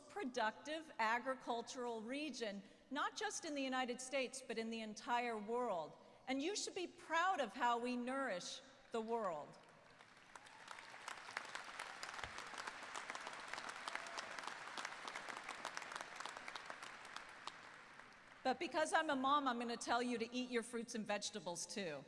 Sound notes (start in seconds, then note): 9.6 applause